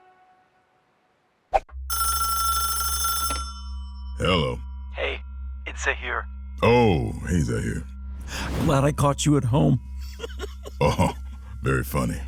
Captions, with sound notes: [phone ringing] - Hello. - Hey, it's Zaheer. Oh, hey, Zaheer. Glad I caught you at home. [laughing] Oh. Very funny.